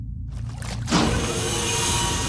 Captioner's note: sloshes; humming